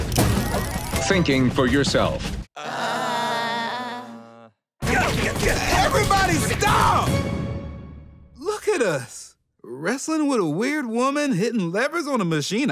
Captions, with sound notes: Thinking for yourself. [groaning] Everybody stop! Look at us, wrestling with a weird woman, hitting levers on a machine.